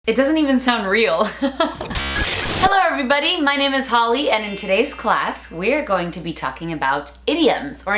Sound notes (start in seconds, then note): 2.0 laughing